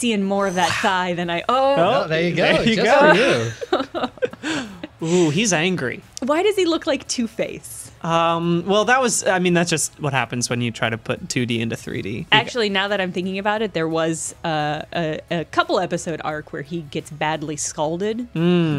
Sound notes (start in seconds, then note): 3.7 laughing